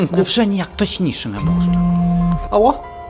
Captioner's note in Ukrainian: дзвінок